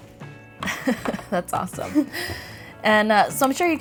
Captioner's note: laughs